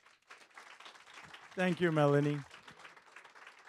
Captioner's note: audience claps